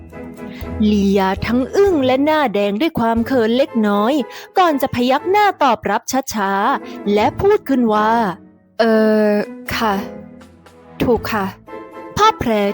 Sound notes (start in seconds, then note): 8.8 Leeya, softly